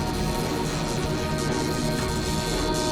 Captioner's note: none